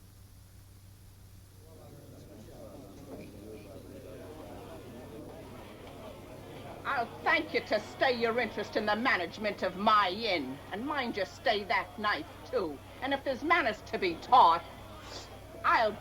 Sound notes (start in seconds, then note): 2.0 chattering